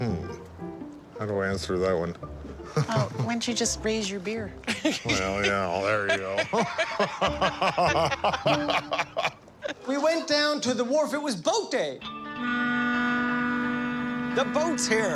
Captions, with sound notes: Hmm, how do I answer that one? Why don't you just raise your beer? There you go. (laughter) We went down to the wharf. It was boat day. The boat's here.